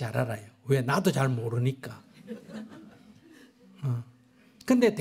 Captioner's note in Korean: 청중 웃음